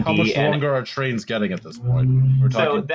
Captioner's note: low brief hum